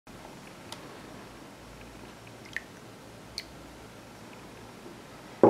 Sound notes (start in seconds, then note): 2.2 milk pouring noises